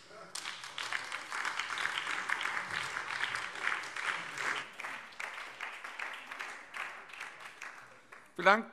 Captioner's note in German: Beifall BÜNDNIS 90/DIE GRÜNEN